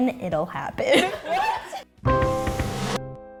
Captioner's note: laughing